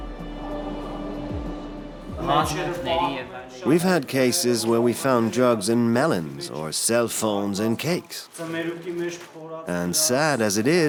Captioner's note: voiceover